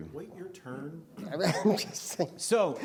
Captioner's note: laughs